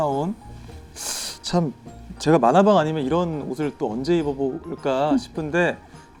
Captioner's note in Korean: 스읍